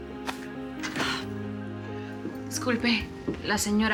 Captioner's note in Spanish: Ruido al abrir la puerta